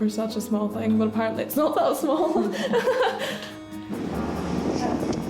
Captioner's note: laughs